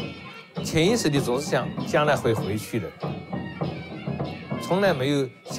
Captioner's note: speaks in Chinese language